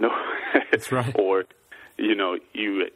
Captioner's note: laughs